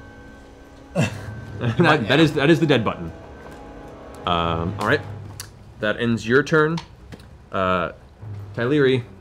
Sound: laughs

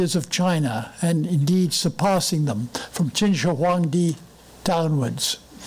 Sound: foreign language

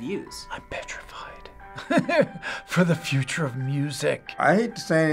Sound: chuckles

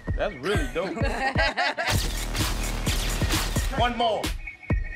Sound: laughter

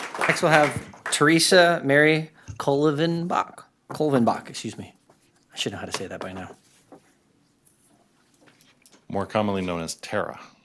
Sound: applause

